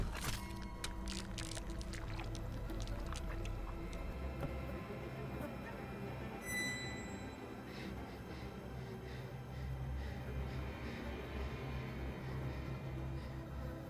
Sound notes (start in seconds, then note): 0.1 hand squishes; 5.4 tense music; 7.7 girl breathing heavily